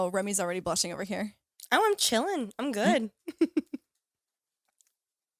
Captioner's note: laughs